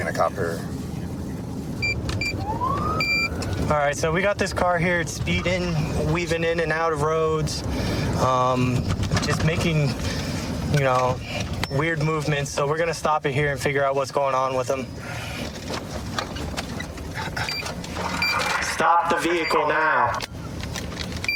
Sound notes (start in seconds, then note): 1.1 buttons beeping